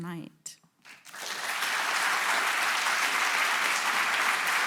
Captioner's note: audience applauding